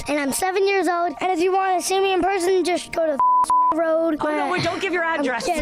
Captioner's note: beep